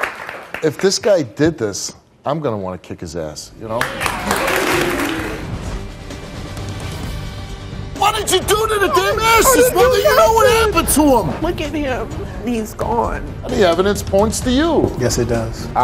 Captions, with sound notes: If this guy did this, I'm gonna want to kick his ass! (audience applause) What do you do to the damn ashes?! What do you know what happened to 'em?! - Look at him! He's gone. - The evidence points to you! - Yes it does.